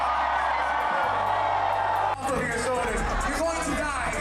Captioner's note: crowd cheering